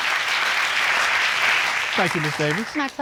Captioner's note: audience clapping